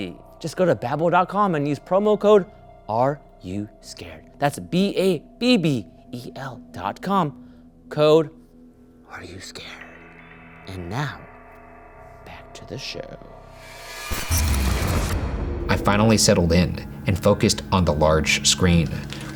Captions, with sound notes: Just go to babbel.com and use promo code Are You Scared? That's B-A-B-B-E-L.com, code Are You Scared? And now, back to the show. (electrical buzzing) - I finally settled in and focused on the large screen,